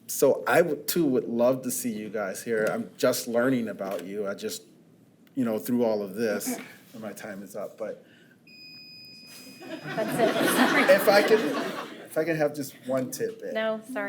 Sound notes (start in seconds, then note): 6.7 board member clears throat; 8.5 timer beeps; 9.7 attendees laugh